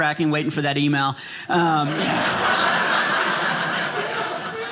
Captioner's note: audience laughing